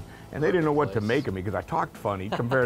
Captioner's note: laughs